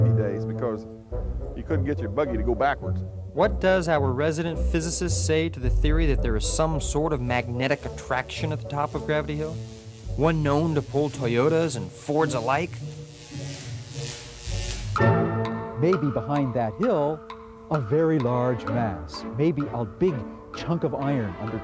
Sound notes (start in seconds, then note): 12.4 electricity crackling; 12.4 mysterious music; 14.8 curious music